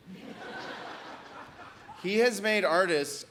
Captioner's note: audience laughs